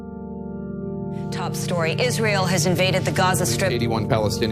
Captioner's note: news soundbites